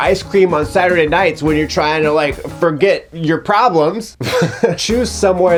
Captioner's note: laughs